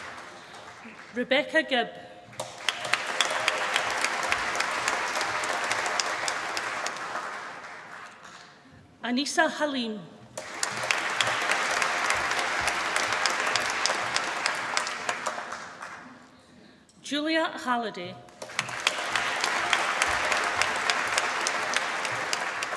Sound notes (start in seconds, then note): 2.3 applause; 10.3 applause; 18.3 applause